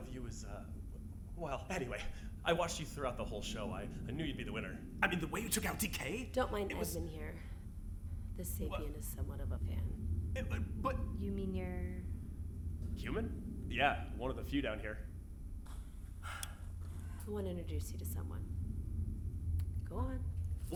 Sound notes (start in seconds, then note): 10.8 stuttering; 16.2 sighing